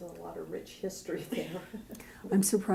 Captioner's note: chuckle